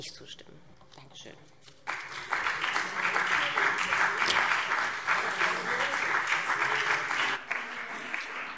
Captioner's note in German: Beifall